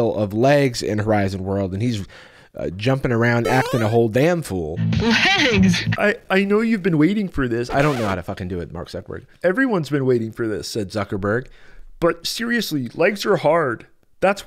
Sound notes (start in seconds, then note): 6.0 Jarvis imitating Zuckerberg